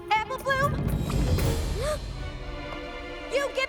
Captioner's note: gasps